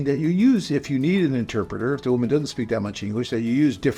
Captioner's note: Latin